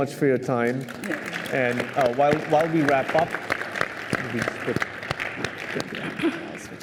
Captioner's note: applause